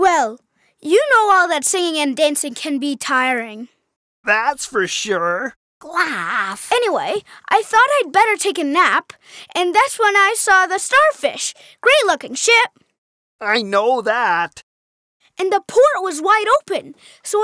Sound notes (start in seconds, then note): none